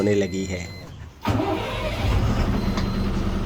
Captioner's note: engine starts